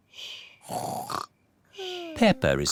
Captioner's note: snores